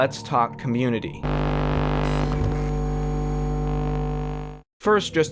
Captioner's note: electronic hum